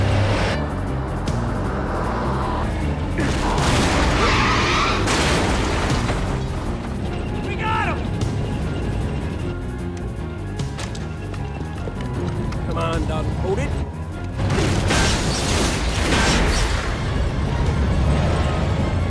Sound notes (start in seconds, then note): 3.1 explosion booms; 3.5 tires screech; 5.1 metal crunches; 14.4 explosions booming